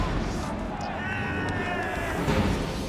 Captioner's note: screams